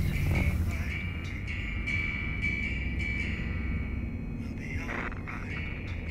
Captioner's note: slow instrumental music; radio static